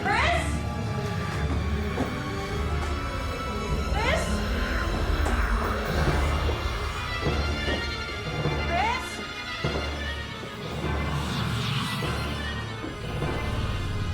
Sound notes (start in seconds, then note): 5.3 ominous whispering; 10.2 ominous whispering